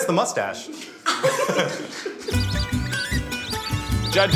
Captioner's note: laughs